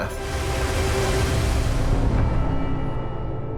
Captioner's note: waves crashing; dramatic music